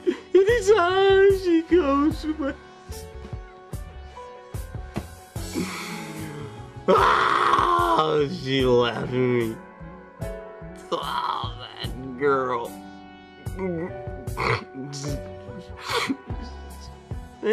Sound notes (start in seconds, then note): 6.8 crying; 15.7 sniffling